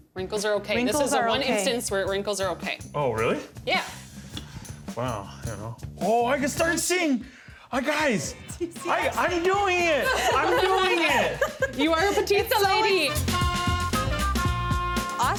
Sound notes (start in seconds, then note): 8.2 laughing; 13.2 upbeat music